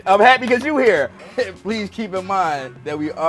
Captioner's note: laughing